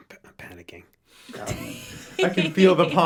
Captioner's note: all laugh